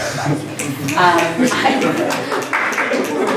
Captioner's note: applause